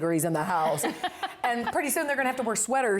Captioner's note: laughter